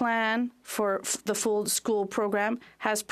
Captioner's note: speaking French